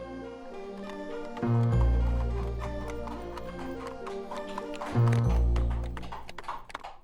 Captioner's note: horse trotting and footsteps